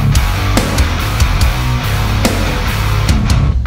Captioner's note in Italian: none